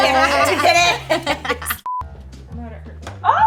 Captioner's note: all laugh